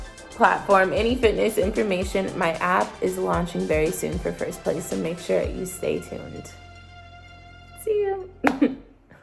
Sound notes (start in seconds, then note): 8.2 laughs